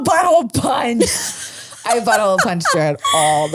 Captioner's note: laughs